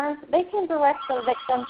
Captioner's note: phone ringing